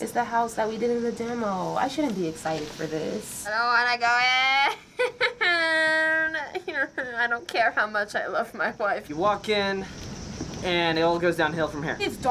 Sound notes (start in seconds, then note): 3.5 sulkily; 5.4 whimpers